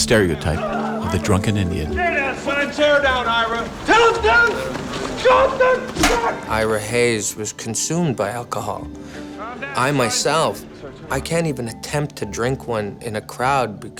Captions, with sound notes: the drunken Indian. - Stay down, son! - Settle down, Ira! - Settle down?! (screaming) Ira Hayes was consumed by alcohol. I myself, I can't even attempt to drink when in a crowd,